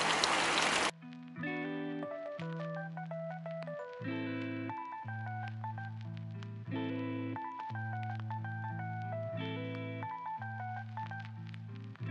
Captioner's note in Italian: Applauso